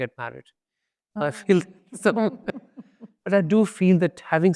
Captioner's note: laughs